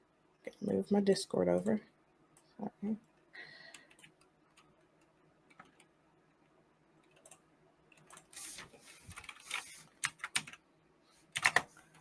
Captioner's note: typing sounds